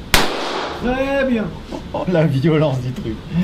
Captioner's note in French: rire